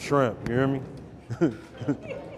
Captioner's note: chuckles; audience chuckles